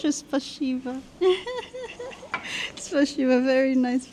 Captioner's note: laughing